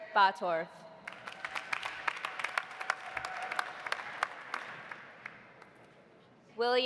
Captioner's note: audience applauding; audience cheering